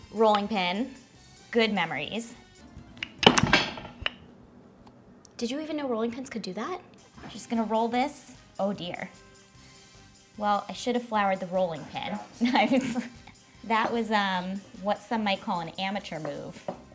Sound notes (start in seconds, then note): 3.0 rolling pin banging; 12.4 chuckles